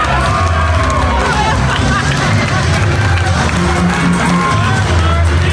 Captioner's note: audience laughing